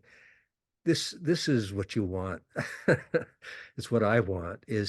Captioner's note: laughs